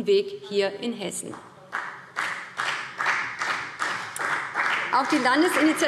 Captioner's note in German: Beifall BÜNDNIS 90/DIE GRÜNEN und vereinzelt CDU